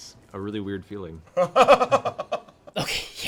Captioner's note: laughs